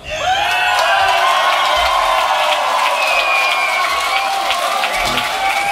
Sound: cheering

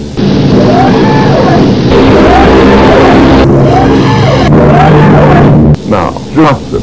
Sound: bomb bay doors opening

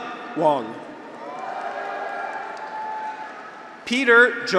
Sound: graduates cheer; audience applauds

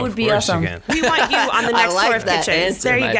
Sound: laughs

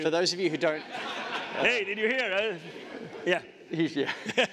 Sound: chuckles

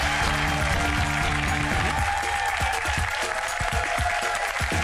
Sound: audience applauds

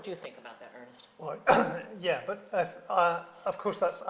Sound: coughs

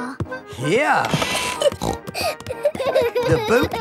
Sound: snorting; kids giggling

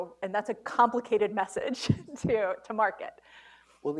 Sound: chuckles

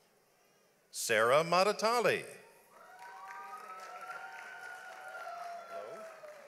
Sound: audience applauds

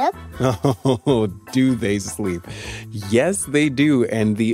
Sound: chuckling deeply

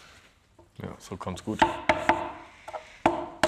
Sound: hammering

